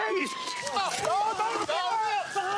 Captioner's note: yells